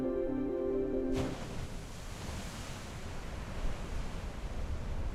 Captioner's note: waves crashing